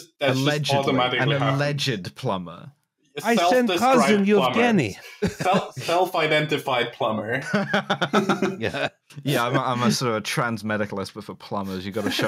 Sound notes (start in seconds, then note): 7.3 laughter; 7.3 laughing